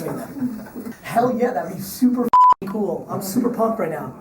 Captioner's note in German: Pieptöne